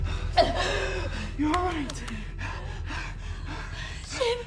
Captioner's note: panting